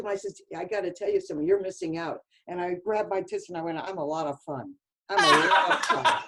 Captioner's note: laughter